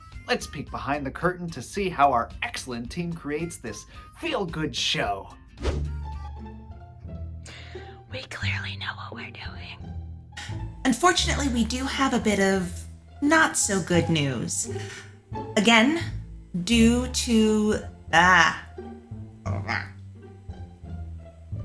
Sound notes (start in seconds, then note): 8.0 hushed voice